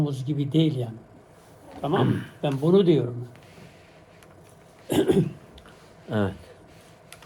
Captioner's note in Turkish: boğazını temizler